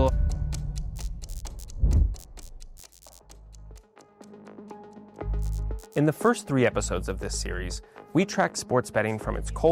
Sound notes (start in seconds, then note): 0.9 neon buzzing; 3.2 low music; 5.3 neon buzzing